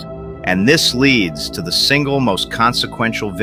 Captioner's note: excited